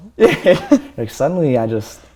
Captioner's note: laughter